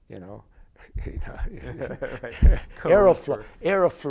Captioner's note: laughter